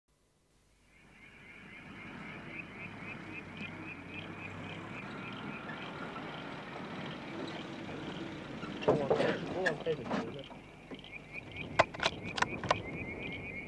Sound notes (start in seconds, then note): 11.8 loading rifle